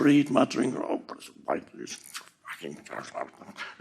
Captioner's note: Eckhart mormăind